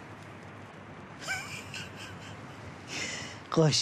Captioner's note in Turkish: Gülme sesi